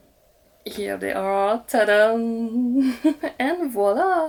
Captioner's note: giggles